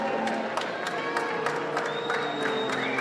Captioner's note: applause